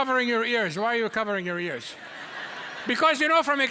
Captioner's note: audience laughs